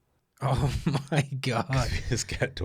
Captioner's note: laughs